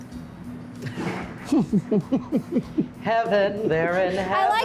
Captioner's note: chuckling